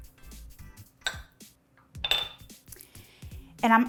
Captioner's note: bowl rattles